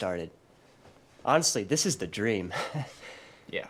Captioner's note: chuckles